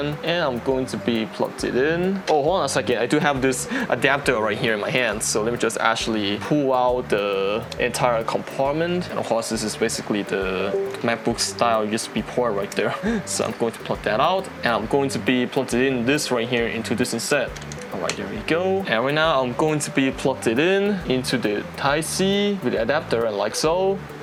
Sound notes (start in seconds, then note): 10.7 windows ding